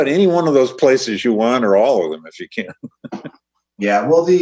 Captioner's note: laughs